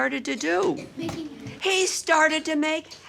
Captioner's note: children muttering